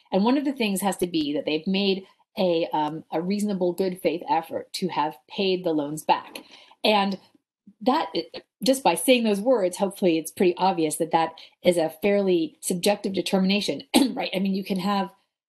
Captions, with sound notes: And one of the things has to be that they've made a reasonable, good faith effort to have paid the loans back. And just by saying those words, hopefully it's pretty obvious that that is a fairly subjective determination. (clears throat) I mean, you can have..